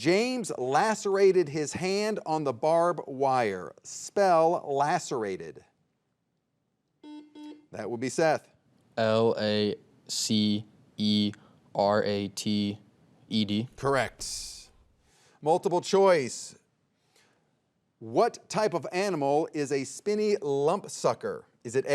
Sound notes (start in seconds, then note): 7.0 soft beeping